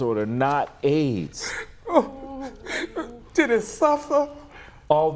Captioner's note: cries